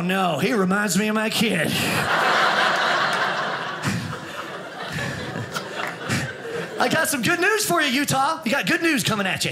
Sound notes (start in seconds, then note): 1.8 audience laughing